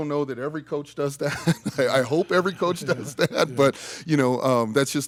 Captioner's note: chuckles